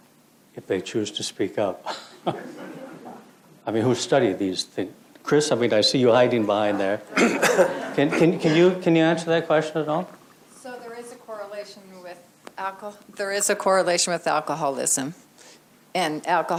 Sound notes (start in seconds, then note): 1.9 crowd laughs; 6.3 crowd laughs; 11.2 voice offscreen